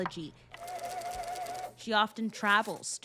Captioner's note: tape whirring